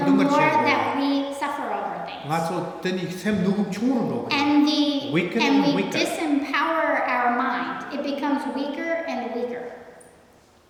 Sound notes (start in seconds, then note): 4.3 speaking tibetan